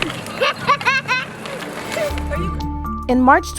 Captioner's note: child laughing